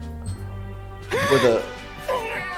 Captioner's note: gasp